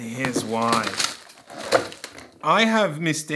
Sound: components clatter

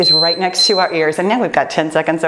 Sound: timer beeps

